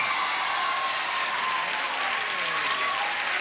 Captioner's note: audience cheering